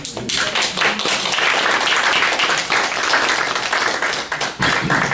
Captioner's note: applause